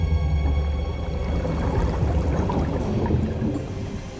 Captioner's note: water bubbling